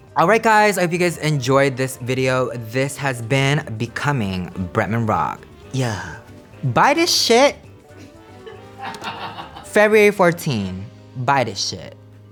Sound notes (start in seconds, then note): 7.8 staff laughs